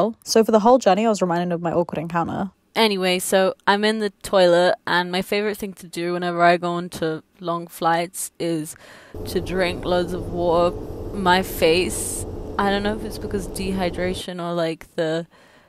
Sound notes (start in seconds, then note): none